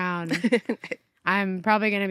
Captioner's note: chuckles